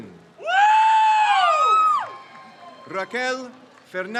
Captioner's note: crowd cheers